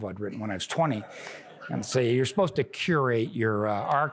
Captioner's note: laughter